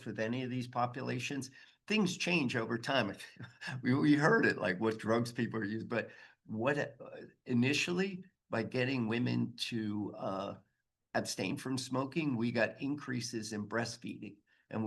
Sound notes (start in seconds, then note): 3.3 chuckles